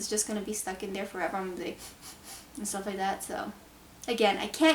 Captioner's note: sniff, sniff, sniff